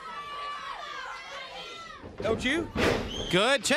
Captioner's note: crowd chatter